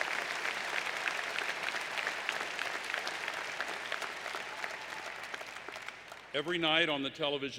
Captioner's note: applause